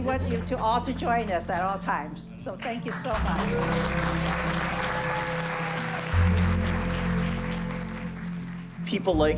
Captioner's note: cheering and applause